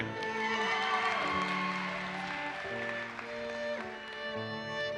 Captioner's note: audience cheers and applauses